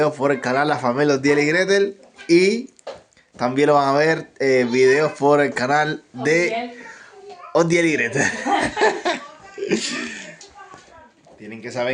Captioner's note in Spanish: risas